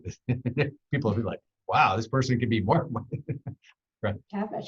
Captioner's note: laughs